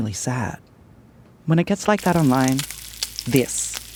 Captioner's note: food sizzling